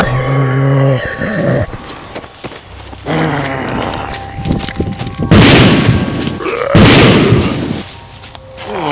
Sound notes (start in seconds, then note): 0.0 groaning; 3.0 groaning; 5.3 gun Shot